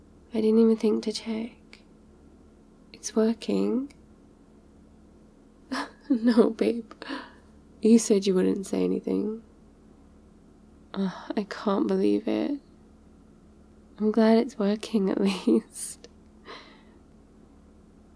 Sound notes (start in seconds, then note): 5.7 laughs